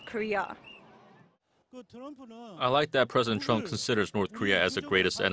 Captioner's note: Korean